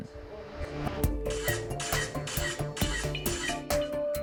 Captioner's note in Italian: Click della fotocamera